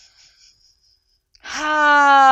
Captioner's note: inhales deeply